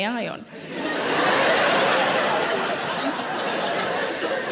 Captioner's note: audience laughing